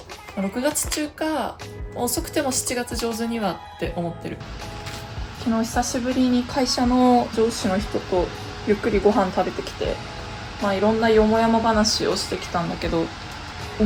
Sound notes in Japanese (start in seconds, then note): 9.5 お湯が沸く音